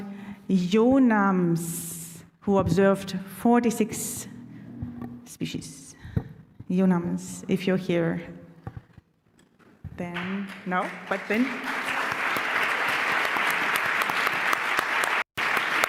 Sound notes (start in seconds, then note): 10.1 applause